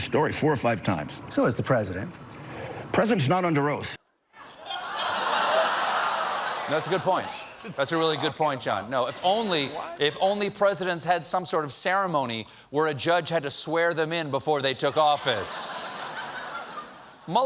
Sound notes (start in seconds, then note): 7.1 audience reacts